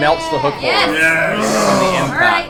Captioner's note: all cheer